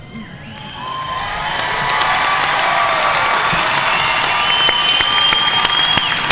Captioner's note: audience cheering and applauding